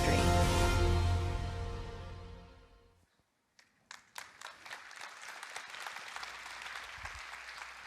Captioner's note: audience applauding